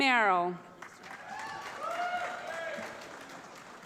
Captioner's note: applause